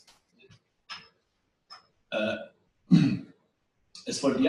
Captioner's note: pause